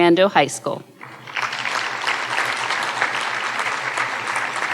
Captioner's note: audience applauding